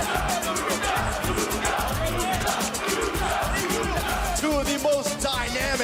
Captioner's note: crowd cheering